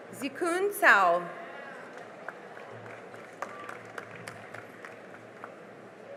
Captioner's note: cheering and applause